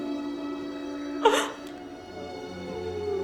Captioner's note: crying